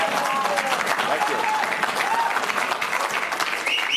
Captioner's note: cheers and applause